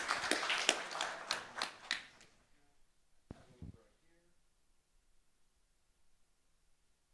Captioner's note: applause